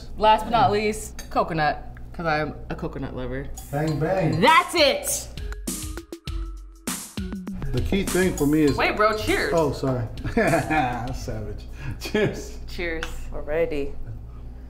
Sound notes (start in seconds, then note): 5.7 upbeat music; 10.2 laughing